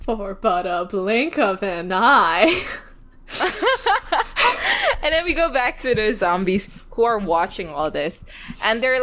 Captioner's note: both laugh